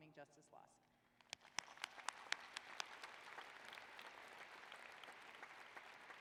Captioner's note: applause